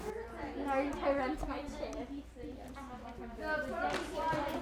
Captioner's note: students chattering